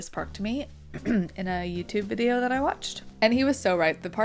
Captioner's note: cough